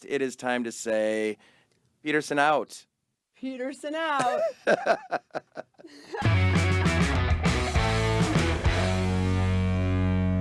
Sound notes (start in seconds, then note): 4.2 laughing; 6.2 lively rock music